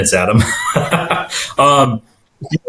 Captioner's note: laughing